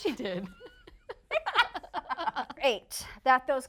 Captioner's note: laughing